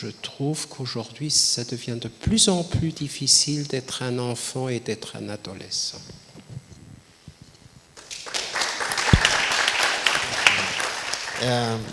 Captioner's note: applause